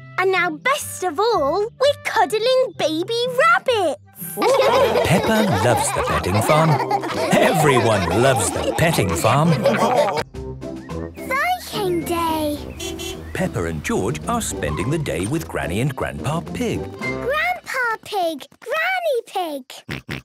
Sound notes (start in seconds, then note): 4.3 all laughing; 13.0 beeping